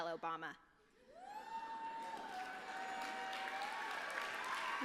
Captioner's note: applause